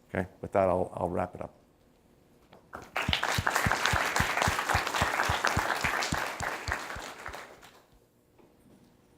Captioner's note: applause